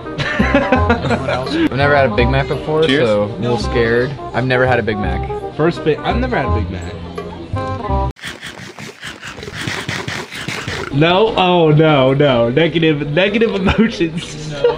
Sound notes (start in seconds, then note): 0.2 laughs; 8.2 chewing sounds